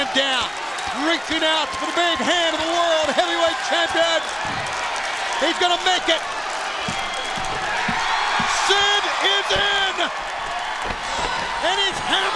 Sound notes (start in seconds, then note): 7.2 crowd cheering